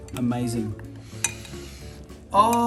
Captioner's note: inhales